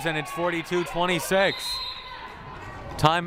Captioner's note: whistle blaring